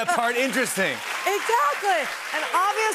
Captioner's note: cheers and applause